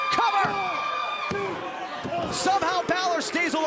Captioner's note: crowd chatter